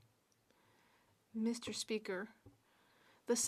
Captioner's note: speaking French